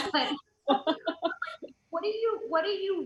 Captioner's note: loud laughs